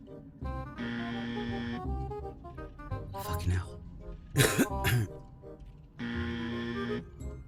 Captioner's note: cough